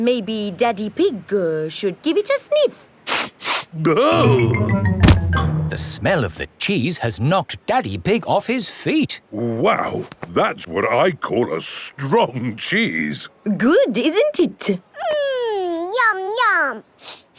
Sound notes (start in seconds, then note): 3.2 sniffs and groans